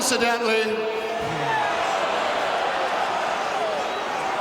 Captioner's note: audience shouting